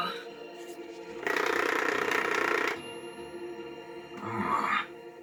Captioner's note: controller vibrating